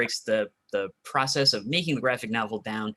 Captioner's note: none